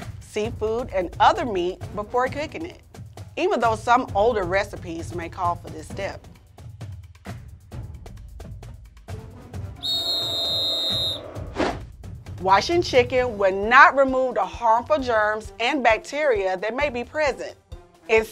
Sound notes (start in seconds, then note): 9.8 whistle blowing; 9.8 crowd booing